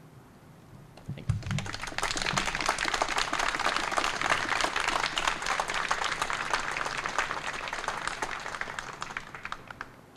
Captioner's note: applause